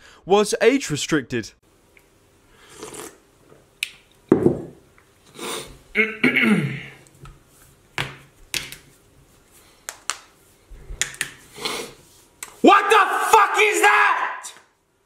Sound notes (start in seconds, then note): 2.6 sipping; 5.9 clearing throat; 7.9 knuckles cracking